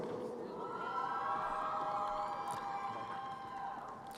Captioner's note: crowd cheering